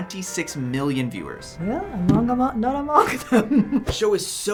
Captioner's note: laughing